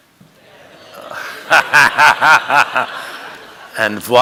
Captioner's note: laughing